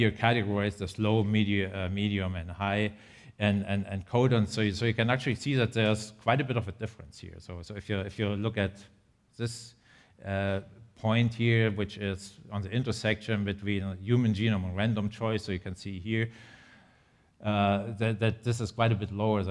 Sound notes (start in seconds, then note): none